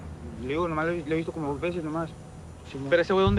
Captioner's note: man speaking spanish